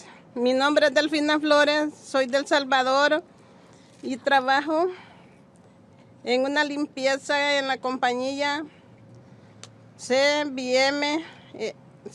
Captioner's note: speaking spanish